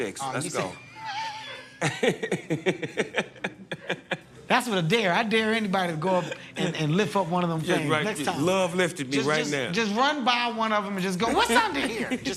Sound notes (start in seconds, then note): 1.2 laughter